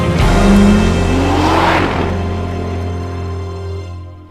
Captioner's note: car zooming